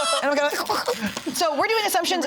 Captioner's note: all laughing; crackles